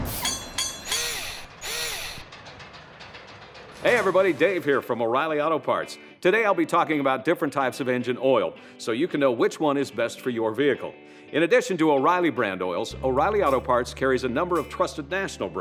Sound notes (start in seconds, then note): 0.0 mechanical SFX